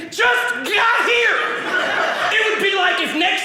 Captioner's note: audience laughing